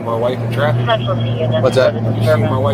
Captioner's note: radio chatter